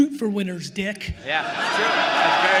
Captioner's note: attendees jeering and laughing